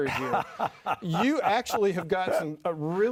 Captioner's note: laughing